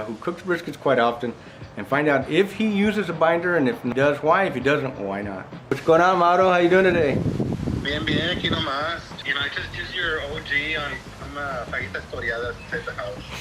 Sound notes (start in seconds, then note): 7.9 speaks in Spanish